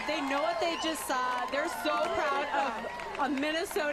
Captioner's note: cheers and applause